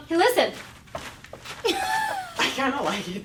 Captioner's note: material chafing